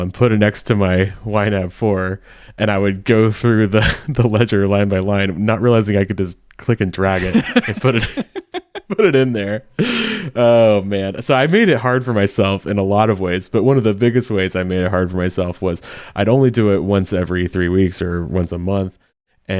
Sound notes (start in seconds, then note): 3.8 chuckling; 7.1 laughing